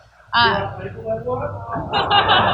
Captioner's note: laughter